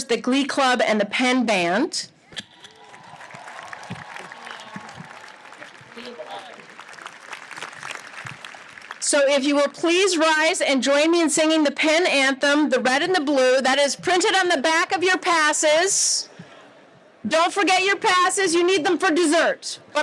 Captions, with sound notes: the glee club, and the Penn band. (audience applauds) So if you will, please rise and join me in singing the Penn anthem "The Red in the Blue" that is printed on the back of your passes. Don't forget your passes. You need them for dessert.